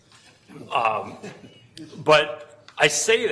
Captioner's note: laughing